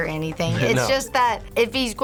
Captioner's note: laughs